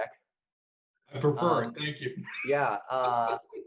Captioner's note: laughs